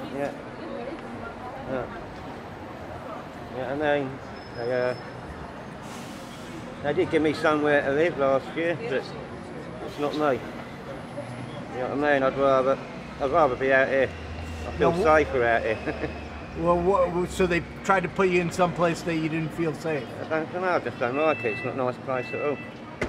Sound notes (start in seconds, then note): 16.1 chuckles